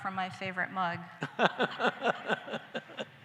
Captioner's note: laughter